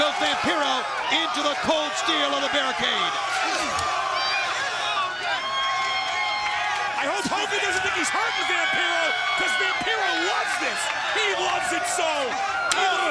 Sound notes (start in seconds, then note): 7.4 presenter speaking faintly off mic